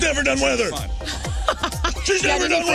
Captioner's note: laughing